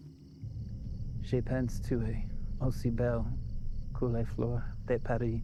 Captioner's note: Lex speaking foreign language